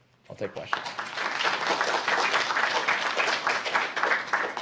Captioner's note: applause